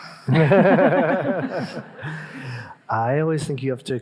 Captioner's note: all laughing